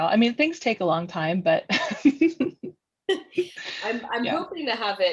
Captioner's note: laughs